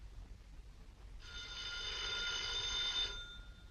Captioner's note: phone ringing